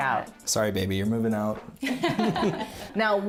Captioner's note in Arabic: يضحك